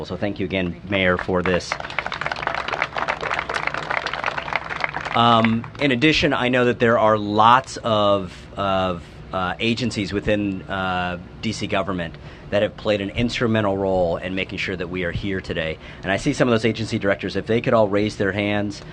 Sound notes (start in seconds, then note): 3.7 applause